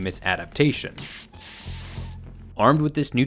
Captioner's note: wire sizzling